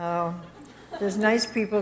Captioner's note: audience chuckles